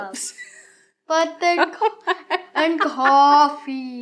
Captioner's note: laughs